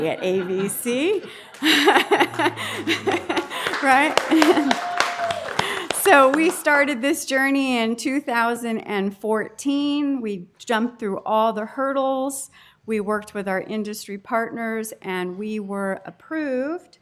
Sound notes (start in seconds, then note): 0.2 laughter and applause